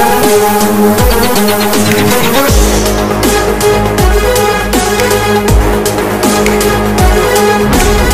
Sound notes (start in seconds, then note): 1.8 finger snaps